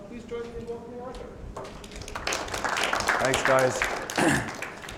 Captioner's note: applause